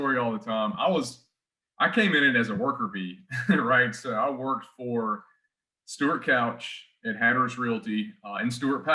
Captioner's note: chuckles